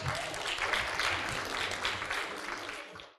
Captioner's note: applause